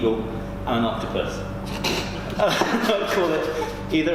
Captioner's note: laughing